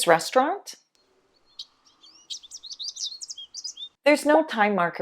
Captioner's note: birds chirping